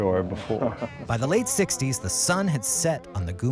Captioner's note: voiceover